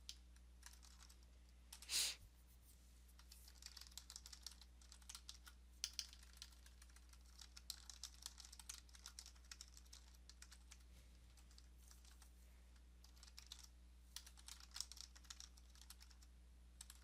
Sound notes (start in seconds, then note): 1.8 sniff